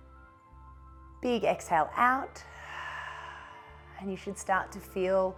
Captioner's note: exhales